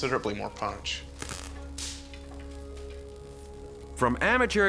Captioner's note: static buzzing